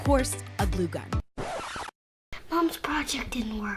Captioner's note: record scratching